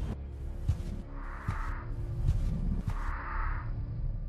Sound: footsteps

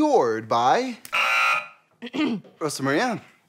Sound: buzzer; clears throat

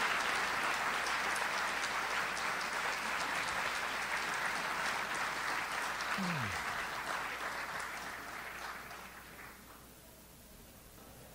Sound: audience applauds

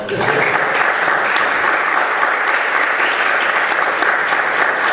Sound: congregation applauding

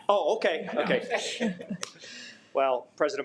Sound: laughs

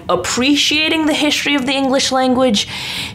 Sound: none

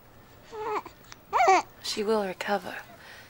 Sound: cooing

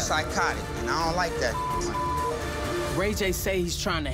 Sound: beep

